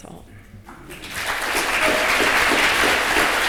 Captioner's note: applause